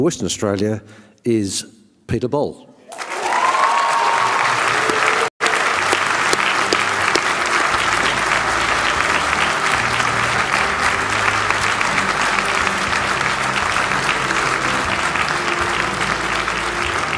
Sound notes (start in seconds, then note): 5.1 cheering and applause